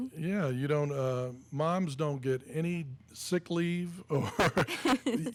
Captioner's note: laughing; laughs